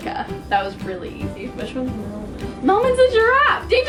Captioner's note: whispering